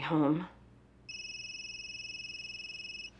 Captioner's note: cell phone ringing